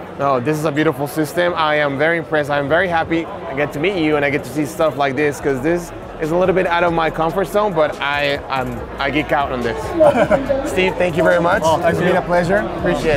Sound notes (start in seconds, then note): 9.8 laughs